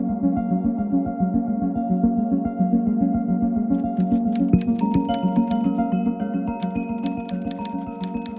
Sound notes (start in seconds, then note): 4.1 keyboard keys clicking